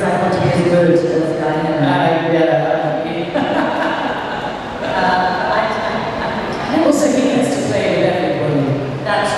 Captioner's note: laughs